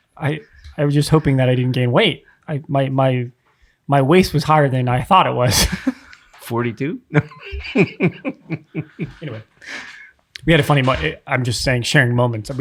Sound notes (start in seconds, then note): 7.1 chuckling